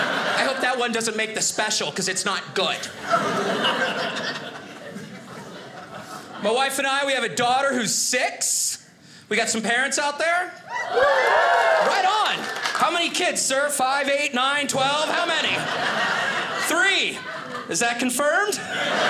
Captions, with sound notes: "I hope that one "doesn't make the special, "'cause it's not good." (audience laughing) My wife and I, we have a daughter who's six. We got some parents out there? (audience cheers) Right on, how many kids, sir, five, eight, nine, 12, how many? Three, is that confirmed?